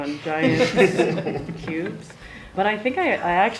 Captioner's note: all laugh